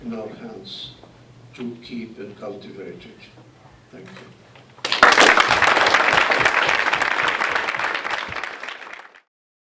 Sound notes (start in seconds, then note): 4.8 applause